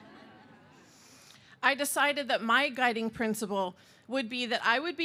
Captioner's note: laughter